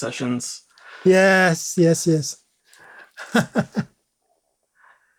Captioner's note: laughs